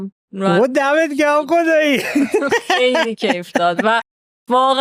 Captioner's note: laughs